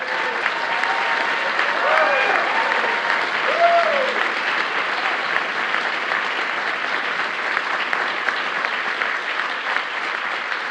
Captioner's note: applause